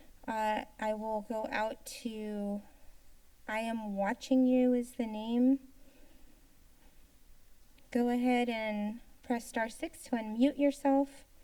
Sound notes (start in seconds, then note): 0.0 inhales; 5.6 silence